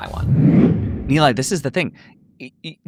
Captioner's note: audio whooshes